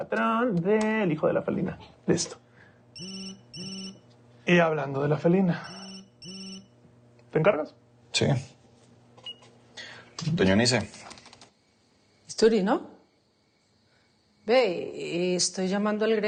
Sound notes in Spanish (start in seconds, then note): 2.9 Suena el celular